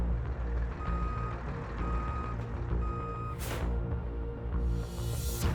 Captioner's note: truck back-up beeping